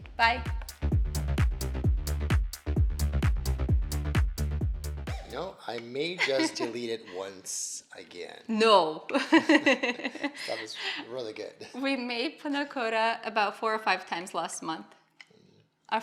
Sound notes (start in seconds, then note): 0.0 bass thumping music; 9.2 laughing